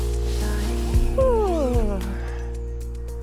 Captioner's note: yawn